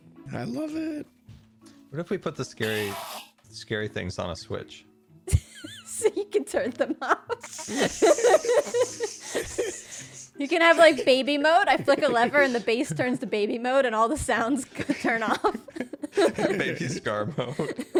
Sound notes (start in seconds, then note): 7.2 laughs; 7.4 laughter